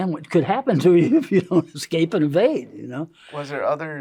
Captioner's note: laughs